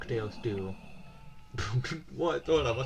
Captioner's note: very quiet scream